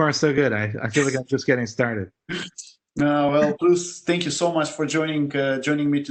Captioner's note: laugh